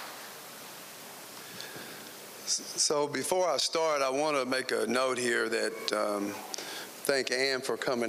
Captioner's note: applause